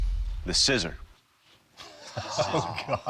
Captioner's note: laughing